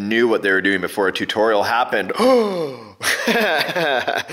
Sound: gasps; laughs

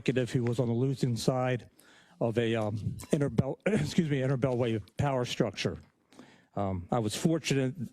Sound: cough

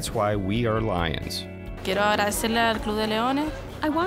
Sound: speaking spanish

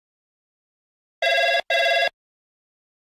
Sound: sound of telephone ring

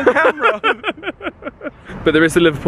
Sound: they laugh

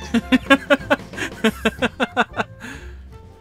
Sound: laughter

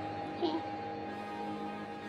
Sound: giggles

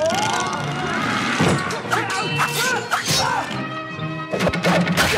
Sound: crashing; groaning

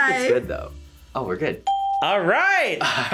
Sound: bell rings; laughs

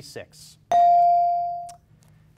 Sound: ding

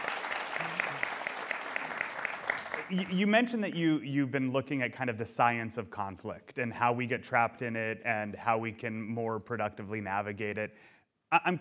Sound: applause

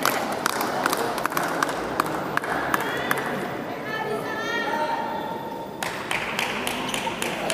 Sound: applause

